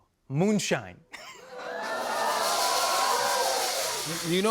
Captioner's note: audience cheers